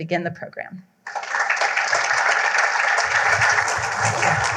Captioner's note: applause